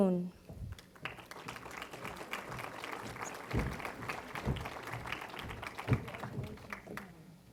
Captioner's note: applause